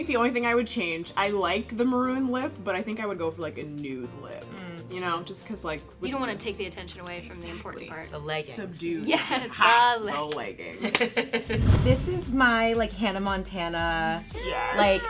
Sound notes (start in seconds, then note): 12.4 laughing; 13.2 air whooshing